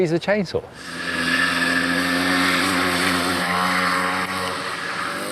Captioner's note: motor rumbling